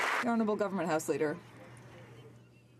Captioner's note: some Applause